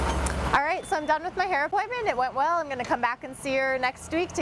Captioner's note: vehicles driving